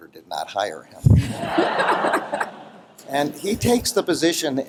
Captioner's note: laughter